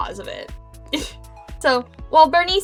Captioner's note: giggle